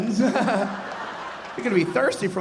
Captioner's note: audience laughing